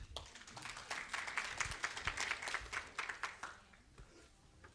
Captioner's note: audience applauds